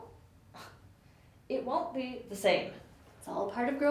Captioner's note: scoffs